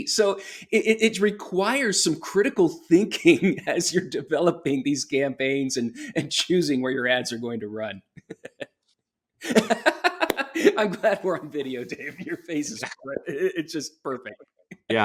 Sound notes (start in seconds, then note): 9.4 laughing